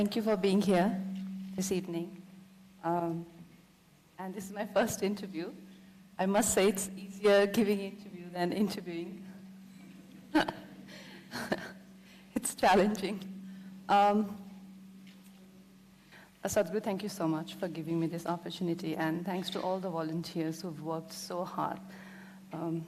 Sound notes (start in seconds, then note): 11.1 laughs